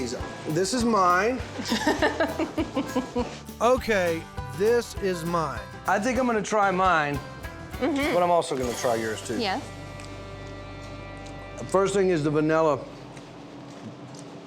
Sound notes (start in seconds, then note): 1.6 cuts him off giggling